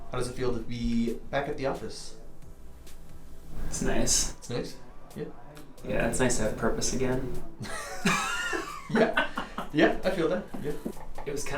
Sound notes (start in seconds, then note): 7.6 chuckles